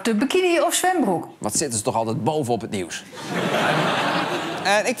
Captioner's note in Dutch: gelach